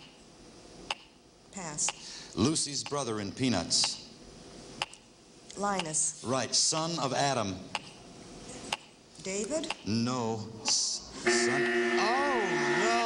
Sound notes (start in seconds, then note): 11.2 buzzing